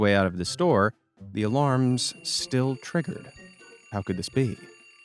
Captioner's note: alarms ringing